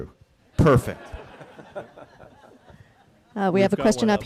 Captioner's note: audience laughing